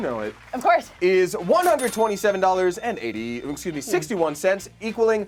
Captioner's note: loud dinging